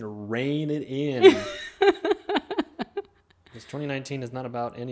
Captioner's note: laughing